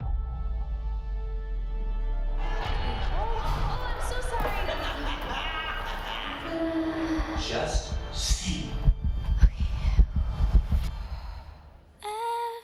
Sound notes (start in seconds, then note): 0.1 gentle music; 4.3 laughs; 8.5 heartbeat thumping